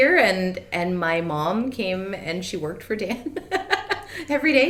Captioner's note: laughs